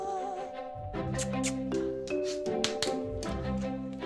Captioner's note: makes kissing sounds; clapping